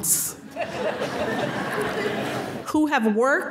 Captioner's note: laughter